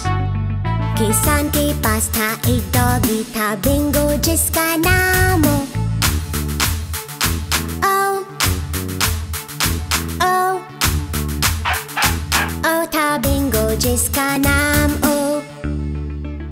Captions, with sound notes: There was a farmer who had a dog and BINGO was his name-O *clap* *clap* *clap* *clap* O And BINGO was his name-O